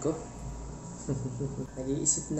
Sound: snicker that borders on lunacy

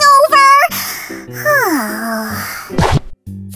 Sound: sigh

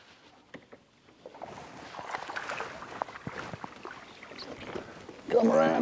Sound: splashing

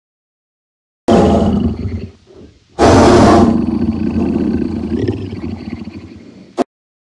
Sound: angry tiger sound

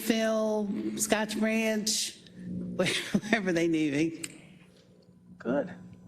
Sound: laugh

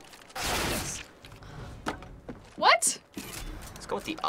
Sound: sighs

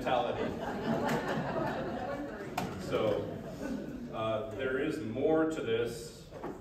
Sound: laughs

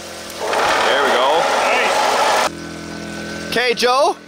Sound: engine roaring

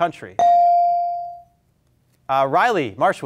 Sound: beep

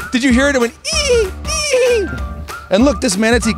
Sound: imitating dolphin squealing

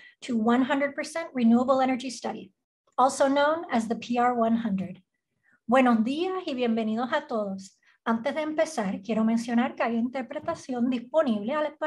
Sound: language other than English spoken, 0:00:40

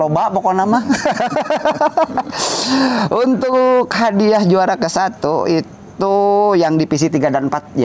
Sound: laughs

